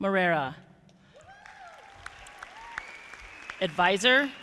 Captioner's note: audience applauding